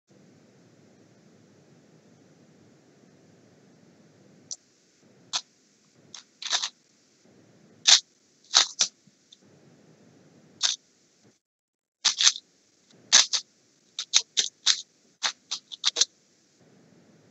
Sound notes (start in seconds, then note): 4.1 Sounds of the Rubik's Cube